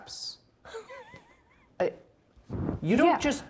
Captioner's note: players laughing